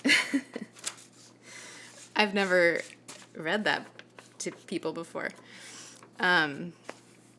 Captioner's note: giggles